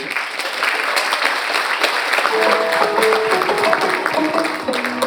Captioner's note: audience applauding